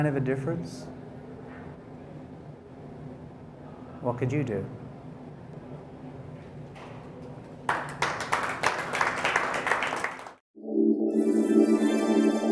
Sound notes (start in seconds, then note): 7.2 applause